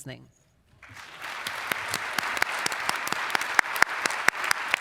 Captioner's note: applause